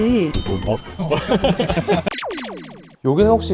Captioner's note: giggles